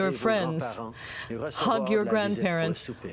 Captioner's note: speaking French